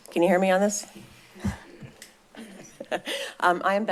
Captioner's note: laughter